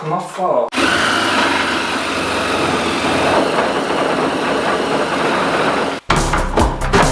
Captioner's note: sawing Sounds